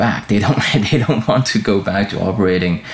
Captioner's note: chuckling